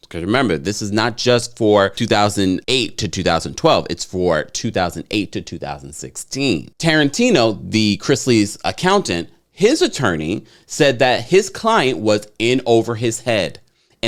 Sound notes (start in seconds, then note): none